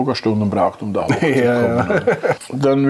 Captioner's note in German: lacht